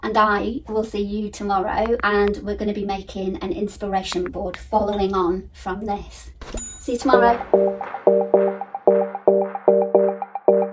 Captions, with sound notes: and I will see you tomorrow. And we're gonna be making an inspiration board following on from this. (bell dings) See you tomorrow. (upbeat music)